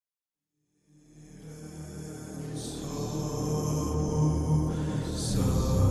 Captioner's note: group chanting in foreign language